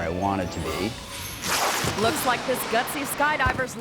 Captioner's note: skydiver whooshing